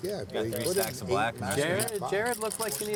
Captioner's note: chattering